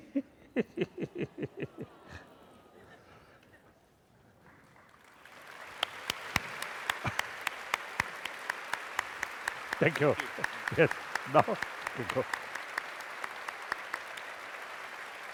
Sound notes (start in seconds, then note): 0.0 laughter; 5.1 applause; 11.8 applause